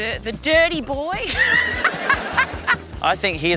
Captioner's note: laughs